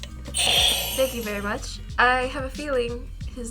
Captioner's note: buzzer rings